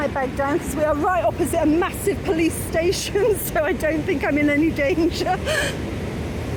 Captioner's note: laughing